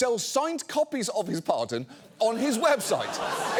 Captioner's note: studio audience laughs